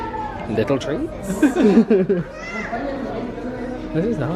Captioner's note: both laugh